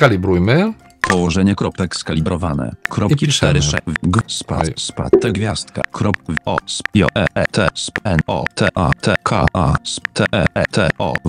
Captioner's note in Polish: Wypowiedź syntezatora mowy